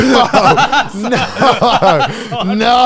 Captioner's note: laughing